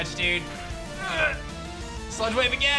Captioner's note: grunts